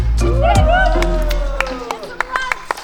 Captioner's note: bystanders cheering